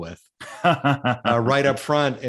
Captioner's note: laughing